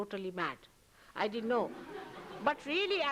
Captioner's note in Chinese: 笑聲